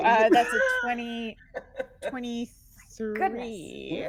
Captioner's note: laughing